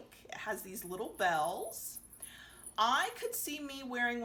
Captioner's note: bells jingling